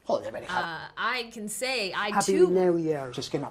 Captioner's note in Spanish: habla en inglés